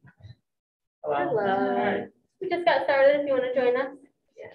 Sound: group greeting newcomer

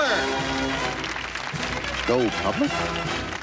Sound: applause

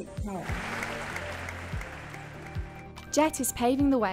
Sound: audience clapping

